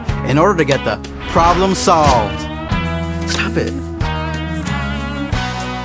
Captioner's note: buzzing